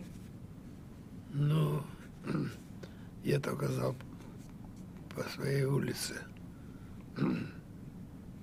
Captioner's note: clears throat